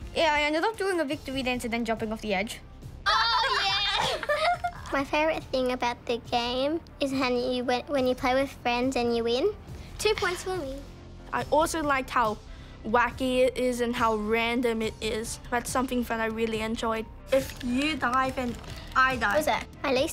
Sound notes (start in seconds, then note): 3.1 laughs